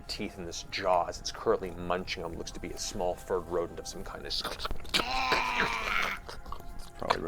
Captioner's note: crunching